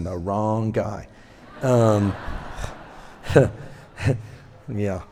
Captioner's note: laughter